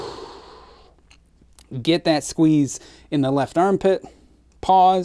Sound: exhales

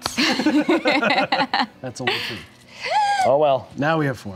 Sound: laughing

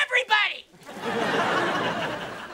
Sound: laughing

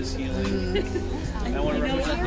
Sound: chatter

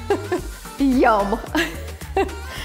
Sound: giggling

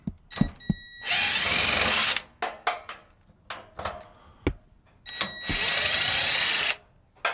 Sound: drill whirring; drill beeping

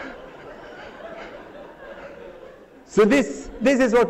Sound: laughter

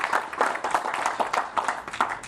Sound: applause

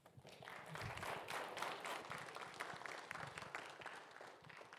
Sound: audience applauding

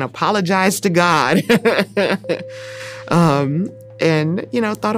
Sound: laughing

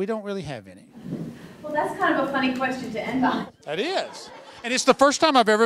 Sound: laughter

